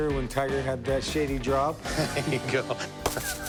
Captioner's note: laughs